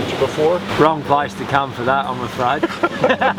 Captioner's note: laughs